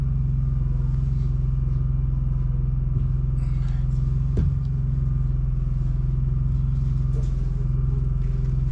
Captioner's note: knocking